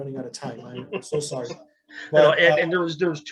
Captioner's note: laughs